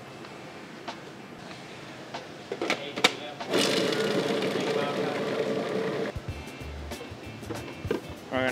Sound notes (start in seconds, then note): 3.5 food processor whirring; 6.4 jazzy music continues